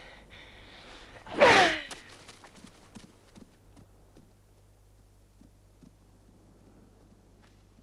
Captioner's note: Hundra grunts; sword slices